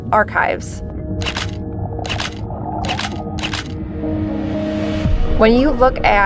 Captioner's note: camera shutter clicking